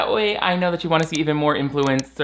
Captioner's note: mouse clicking